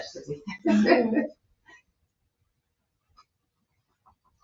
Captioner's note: laughing